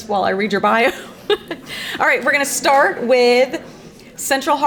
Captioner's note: laughs